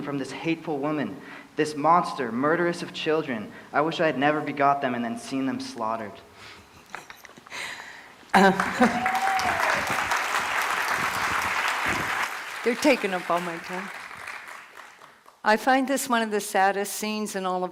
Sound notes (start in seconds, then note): 8.3 applause